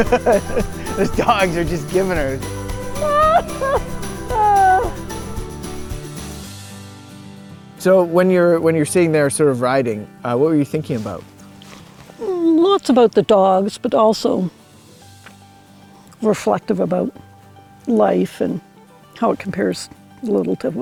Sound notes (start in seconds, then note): 2.9 laughing; 2.9 laughs